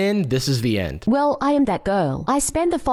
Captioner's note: AI voiceover